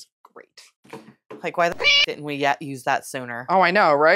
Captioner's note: meow